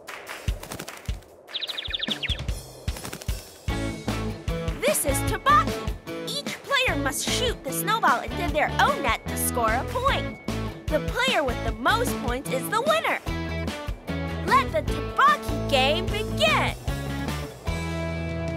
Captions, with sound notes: (bird tweeting) - This is tobockey. Each player must shoot the snowball into their own net to score a point. The player with the most points is the winner. Let the tobockey game begin.